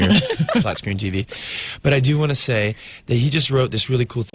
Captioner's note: Uzo and interviewer laugh